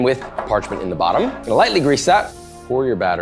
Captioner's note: can spraying